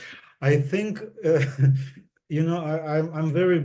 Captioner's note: laughs